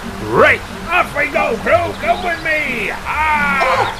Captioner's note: shouting from behind